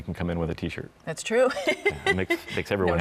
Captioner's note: giggles